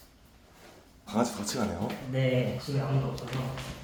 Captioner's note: none